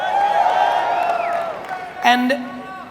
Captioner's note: audience cheers